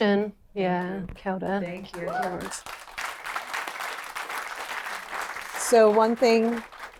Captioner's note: applause